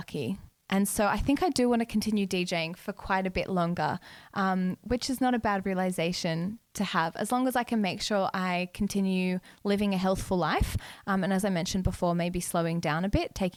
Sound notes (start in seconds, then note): none